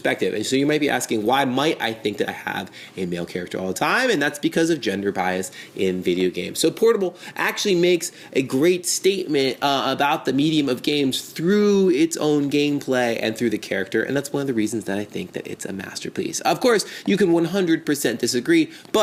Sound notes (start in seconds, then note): none